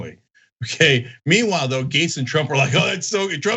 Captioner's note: laugh